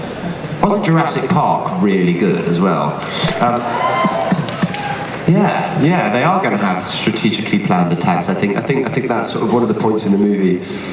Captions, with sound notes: Wasn't Jurassic Park really good as well? (cheers) Yeah, yeah they are going to have strategically planned attacks. I think that's sort of one of the points in the movie.